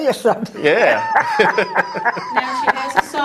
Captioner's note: laughter